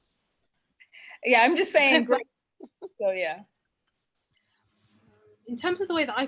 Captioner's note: faintly speaking